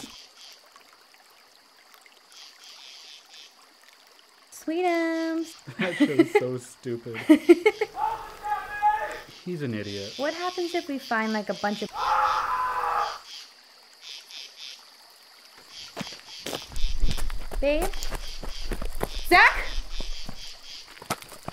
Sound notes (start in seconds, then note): 0.0 water trickles; 0.3 insects buzz; 7.2 laughs; 7.7 Zack yells; 11.9 Zack screams; 14.1 insects hum; 16.4 footsteps crunch